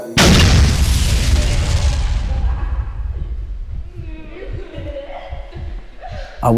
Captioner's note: explosion booming; female laughing